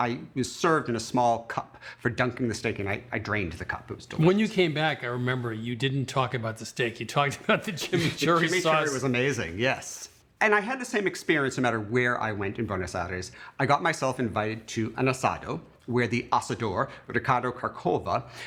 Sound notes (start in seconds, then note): 7.2 laughing